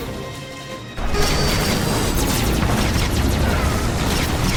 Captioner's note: lasers firing